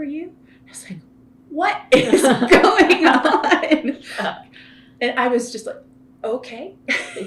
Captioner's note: laughter